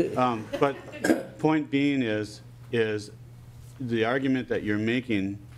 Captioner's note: laughing